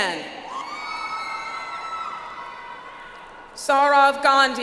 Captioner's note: audience applauds